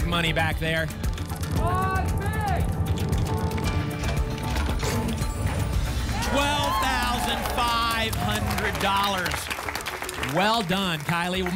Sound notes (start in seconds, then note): 1.5 clicks; 3.6 cash register sounds; 8.2 applause and cheering